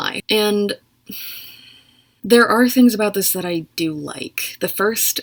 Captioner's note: exhales